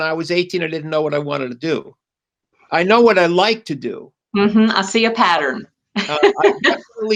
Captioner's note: laughs